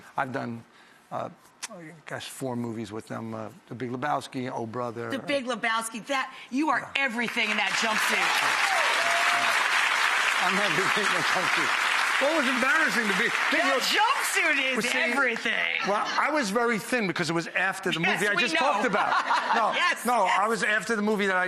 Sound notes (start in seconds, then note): 8.1 audience claps; 18.0 laughs